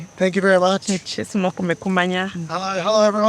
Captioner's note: interpreter speaking in foreign language